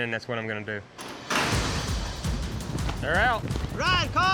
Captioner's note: gates clank open